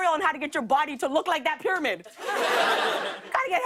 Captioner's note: laughter